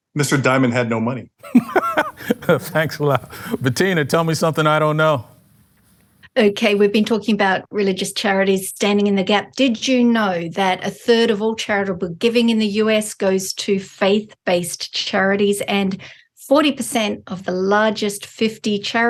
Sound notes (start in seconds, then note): 1.4 laughs